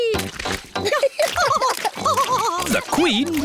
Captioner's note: both laughing